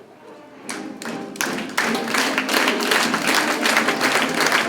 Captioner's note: crowd claps